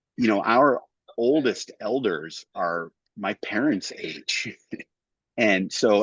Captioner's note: laughs